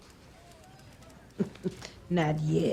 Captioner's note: chuckles